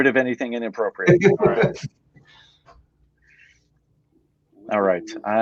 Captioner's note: laughing